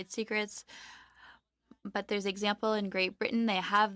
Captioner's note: speaking French